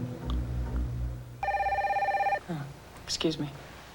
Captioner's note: telephone rings